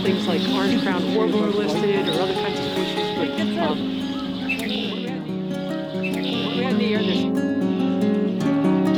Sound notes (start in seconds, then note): 2.9 birds chirp